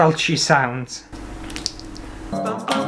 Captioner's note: Squelch